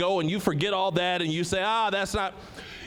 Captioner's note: none